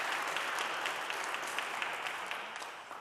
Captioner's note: audience clapping